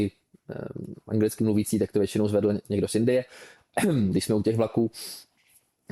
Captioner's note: clears throat